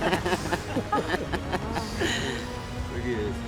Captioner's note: laughter